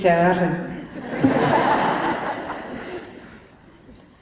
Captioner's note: laughter